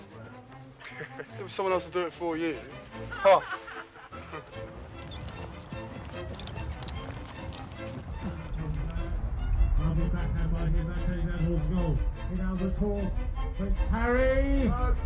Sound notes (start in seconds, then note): 0.8 William laughs; 2.7 laughing; 4.5 whimsical music; 9.7 sports announcer speaking softly; 13.6 voiceover